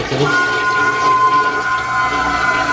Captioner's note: toilet wailing